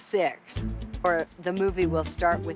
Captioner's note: none